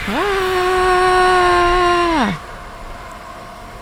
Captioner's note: scream from computer